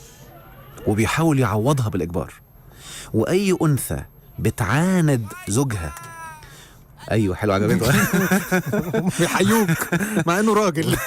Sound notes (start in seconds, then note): 5.8 shouting jokingly; 7.7 laughers